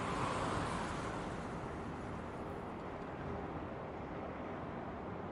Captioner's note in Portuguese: som de carros a passar